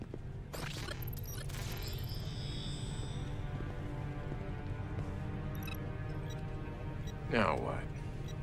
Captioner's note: electronic sounds